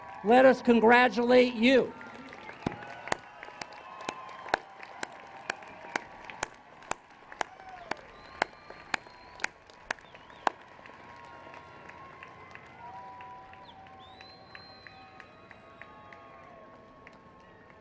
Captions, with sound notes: Let us congratulate you. [ Applause and Cheers ]